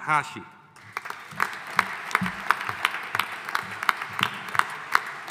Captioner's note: audience applauding